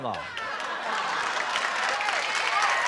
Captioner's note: applause